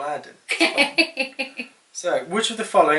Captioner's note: laughs and agrees